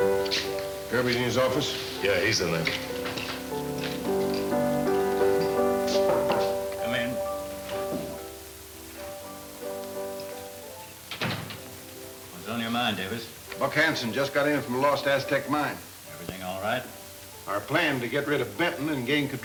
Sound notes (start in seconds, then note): 5.8 knocking on door